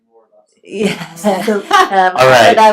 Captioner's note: laughs